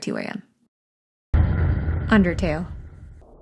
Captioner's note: echoing sound